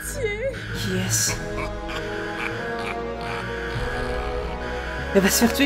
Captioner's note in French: rire